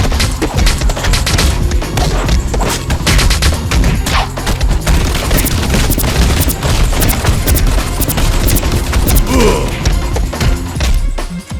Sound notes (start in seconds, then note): 9.2 Goon's death gurgle